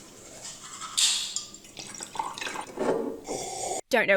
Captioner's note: liquid swishing; toothbrush scrubbing; carbonated drink hisses; slurping drink